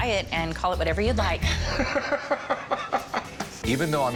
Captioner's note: laughs